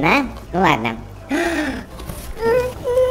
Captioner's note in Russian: глубокий вдох